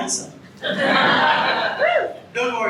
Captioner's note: audience laughs